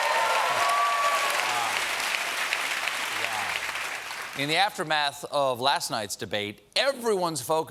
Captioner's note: applause